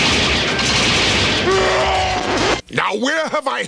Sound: oddly familiar stock scream; record scratch

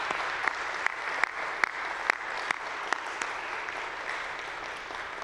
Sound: audience applauding

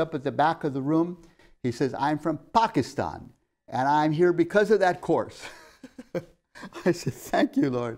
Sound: laughs

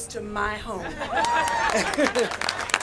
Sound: applause

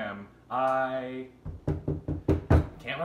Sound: knocking

